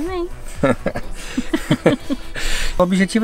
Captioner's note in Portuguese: risos